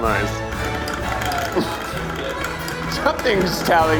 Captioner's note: food processor whirring